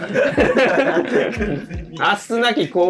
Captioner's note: laughing